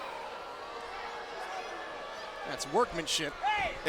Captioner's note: crowd chatter